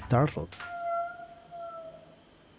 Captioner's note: squeeeak